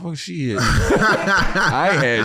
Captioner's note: laughing